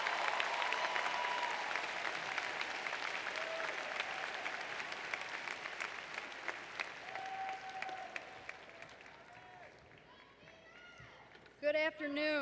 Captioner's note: applause